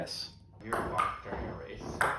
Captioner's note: small thumps